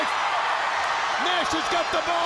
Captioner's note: crowd cheering